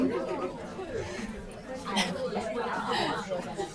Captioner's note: laughing